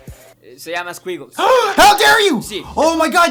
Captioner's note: gasp